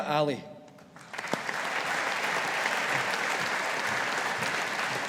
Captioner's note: audience applauding